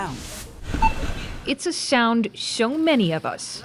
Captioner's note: electronic beep